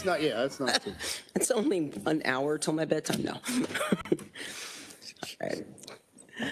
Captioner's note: laughs